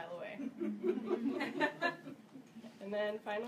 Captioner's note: audience Laugh